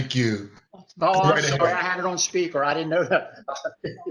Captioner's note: laughter